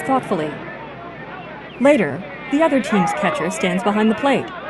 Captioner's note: players shouting and whistling